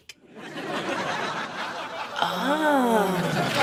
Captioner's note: audience laughing